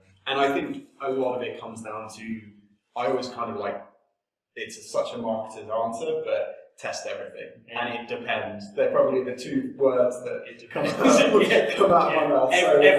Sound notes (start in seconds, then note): 10.6 both laugh